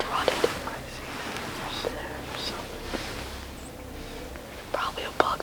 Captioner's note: whispering